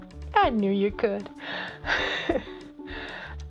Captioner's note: chuckle